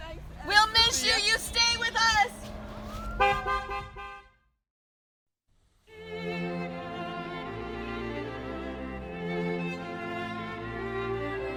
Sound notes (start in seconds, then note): 3.1 car horn honking; 6.0 bright orchestral music